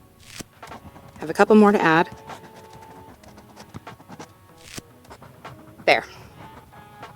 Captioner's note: writing continues; writing sounds, more sticky note peels